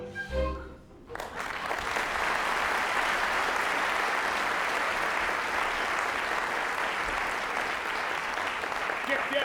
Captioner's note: applause